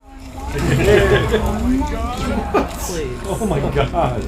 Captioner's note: laughs